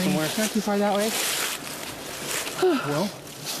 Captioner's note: sighs